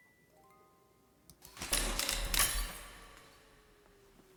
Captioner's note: sound of glass breaking/camera shutter going off